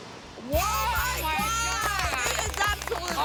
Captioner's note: excitement chatter; applause